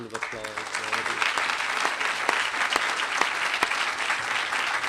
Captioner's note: applause